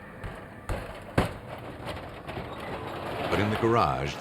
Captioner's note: banging